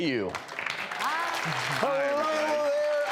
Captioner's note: audience applauding